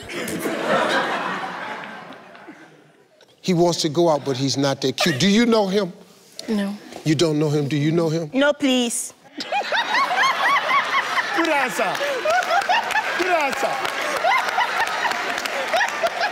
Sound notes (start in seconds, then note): 0.0 audience and team laughs; 9.4 laughs